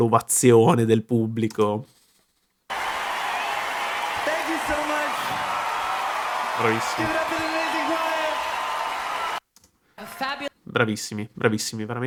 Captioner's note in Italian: Applauso